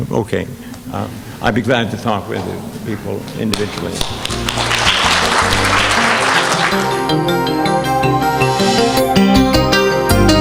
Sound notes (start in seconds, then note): 4.0 audience applauding; 6.7 chiming music